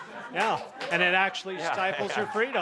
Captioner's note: laughter